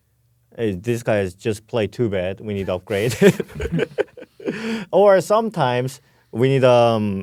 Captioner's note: laughs